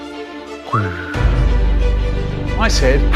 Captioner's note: small child trying to whistle noises